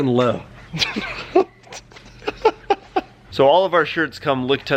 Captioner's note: laughing